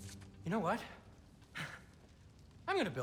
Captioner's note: laugh